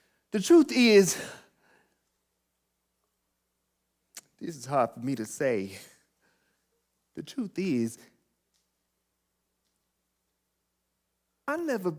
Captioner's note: sigh